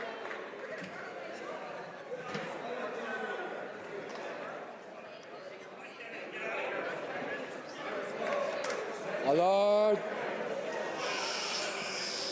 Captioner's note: speaking French